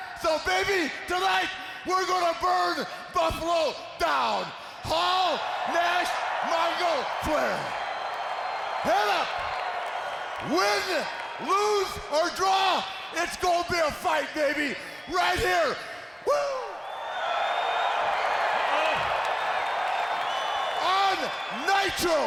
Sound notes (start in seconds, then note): 16.8 audience cheering